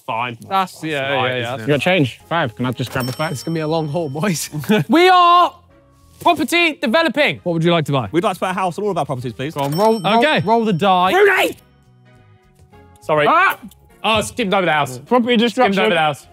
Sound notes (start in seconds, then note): 4.8 yells